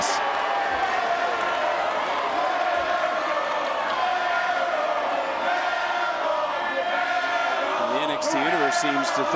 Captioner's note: crowd chanting "air ball"